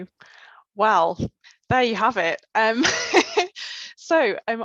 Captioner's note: laughs